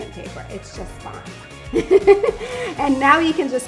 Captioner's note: laughs